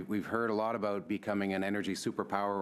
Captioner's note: speaking French